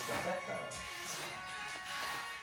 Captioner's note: humming